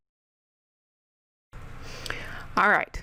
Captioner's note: deep breath into the mic, just to make sure you're awake